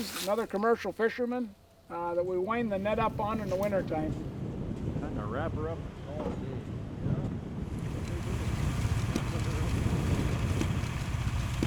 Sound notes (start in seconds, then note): 5.1 group chattering; 8.2 wind blowing